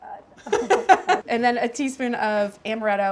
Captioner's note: laughing